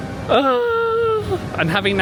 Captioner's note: squeals